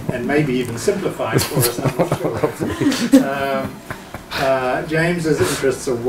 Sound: laughs

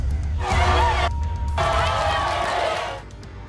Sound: crowd yelling

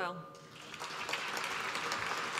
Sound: applause

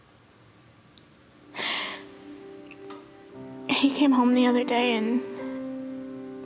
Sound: sighs

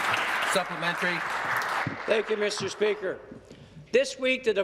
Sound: applause

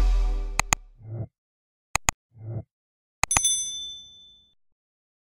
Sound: mouse clicking; notification chiming

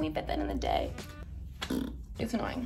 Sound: blows raspberry

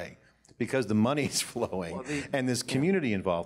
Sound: laughs

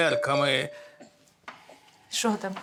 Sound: chat notification

